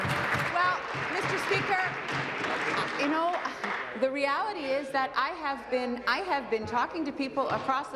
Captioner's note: applause